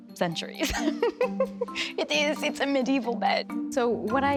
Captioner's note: laughs